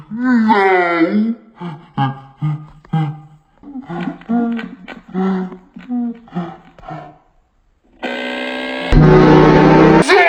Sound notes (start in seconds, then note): 1.5 breathing agressively; 8.0 buzzer